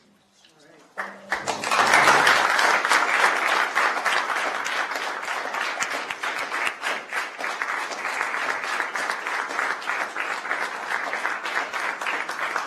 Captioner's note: applause